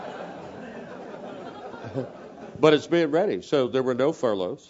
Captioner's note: laugh